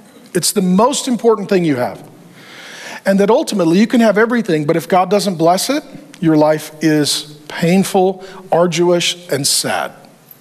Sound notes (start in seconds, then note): none